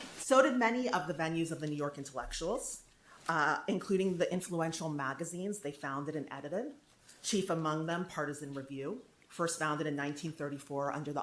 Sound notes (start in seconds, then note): none